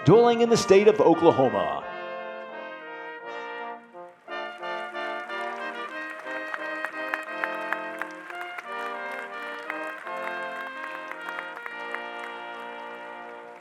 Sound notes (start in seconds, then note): 2.2 soft trumpet music; 5.7 audience applauding